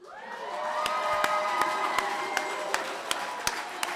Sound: cheering

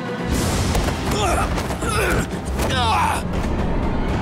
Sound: grunting

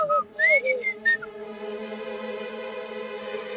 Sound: whistling

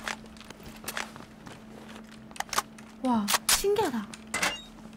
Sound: AK's sound of reload changed

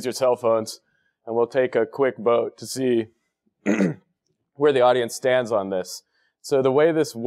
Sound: cough

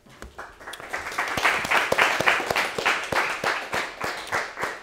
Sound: students applauding

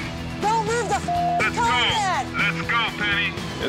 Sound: beeps

